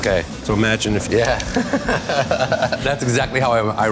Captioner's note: laughter